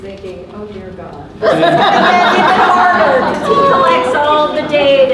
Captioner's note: participants laughing